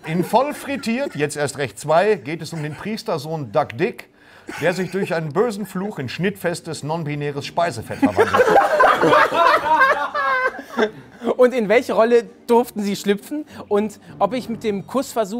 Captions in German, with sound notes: In "Voll frittiert! - Jetzt erst recht! 2" geht es um den Priester-Sohn Doug Dick, der sich durch einen bösen Fluch in schnittfestes, non-binäres Speisefett verwandelt hat. (Gelächter) Und in welche Rolle durften Sie schlüpfen? Und ob ich mit dem Kussversuch